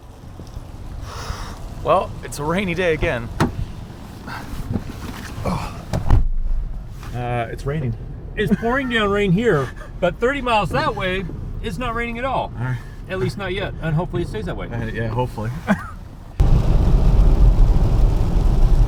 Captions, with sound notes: (rain pouring) Well, it's a rainy day again. (opening door) (closing door) It's raining. - It's pouring down rain here but 30 miles that way it's not raining at all. - All right. - At least not yet and hopefully it stays that way. - Yeah, hopefully.